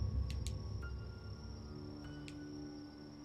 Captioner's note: flashlight clicks on, off